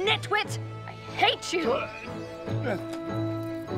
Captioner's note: dog panting